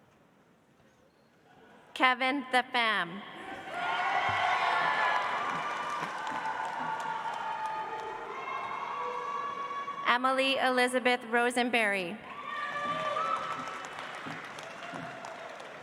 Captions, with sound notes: Kevin The Pham. (audience applauds) Emily Elizabeth Rosenberry. (audience applauds)